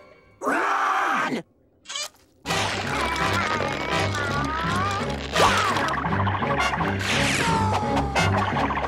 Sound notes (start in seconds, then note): 2.5 groaning